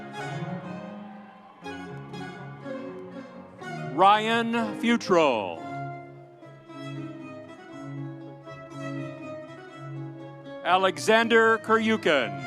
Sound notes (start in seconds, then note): 0.0 audience cheering; 6.2 audience applauding